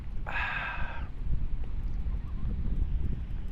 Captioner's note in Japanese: ため息